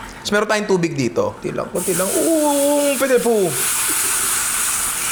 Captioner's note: speaks French